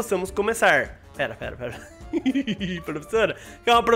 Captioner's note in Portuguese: risos